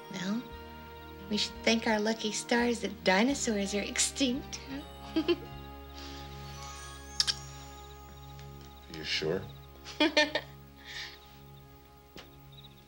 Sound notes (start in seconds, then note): 5.0 Annie giggles; 9.8 Annie laughs